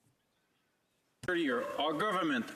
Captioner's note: speaking French